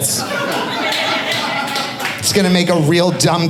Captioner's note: audience laughing